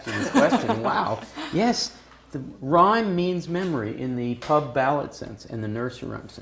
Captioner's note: laugh